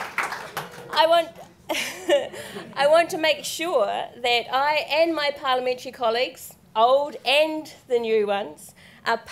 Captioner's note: laughs